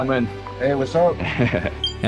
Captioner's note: chuckles